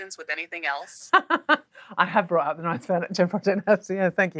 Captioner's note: laughs